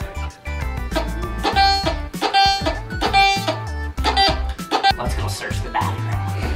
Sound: metal detector farts

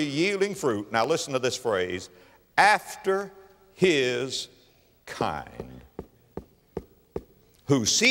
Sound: tap, tap, tap, tap, tap

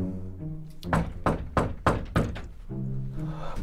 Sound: knocking on door

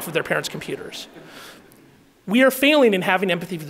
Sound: audience laughing

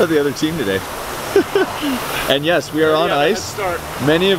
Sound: laughs

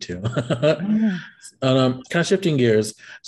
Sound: both laugh

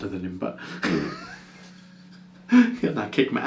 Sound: both men laughing

